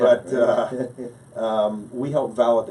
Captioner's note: laughing